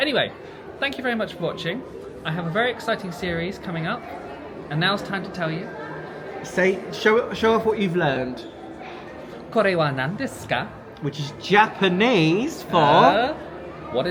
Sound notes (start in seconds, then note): 9.7 speaks in Japanese